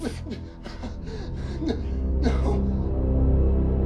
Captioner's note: Carl panting; tense menacing music